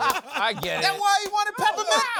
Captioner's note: laughs